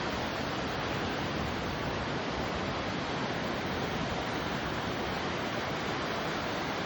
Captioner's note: birds and waves create natural harmony